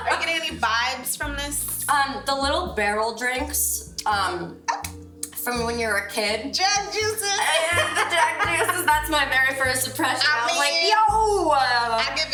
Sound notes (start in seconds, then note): 7.3 laughs